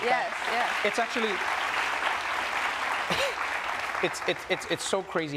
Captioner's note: audience claps; scoffs